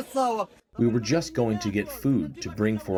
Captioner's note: through translator